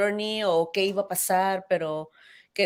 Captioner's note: speaks in Spanish